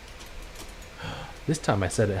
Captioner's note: gasps